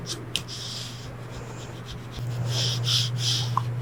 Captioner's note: scrapping